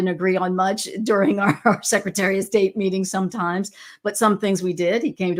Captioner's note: laughs